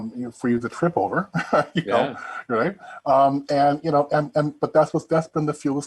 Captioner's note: chuckling